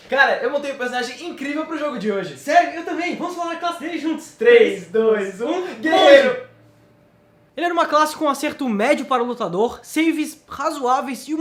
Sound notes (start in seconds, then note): 6.5 silence before mortal duel